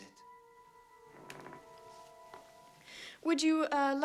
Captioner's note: stair Creaks